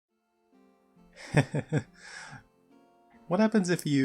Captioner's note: laugh